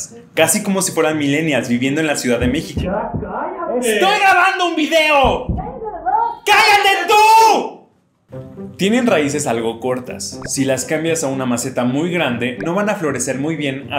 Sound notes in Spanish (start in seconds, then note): 2.5 vecino gritando; 5.6 vecina gritando